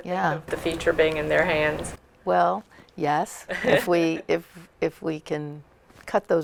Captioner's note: laughter